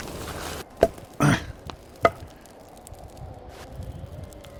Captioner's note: hitting tree